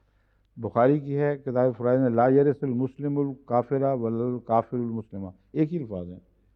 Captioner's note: Arabic